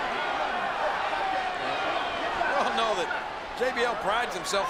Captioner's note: crowd shouts